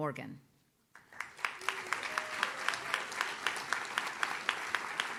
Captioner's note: audience claps